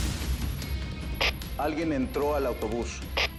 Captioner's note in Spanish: Sonido del radio